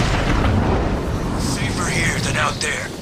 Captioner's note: none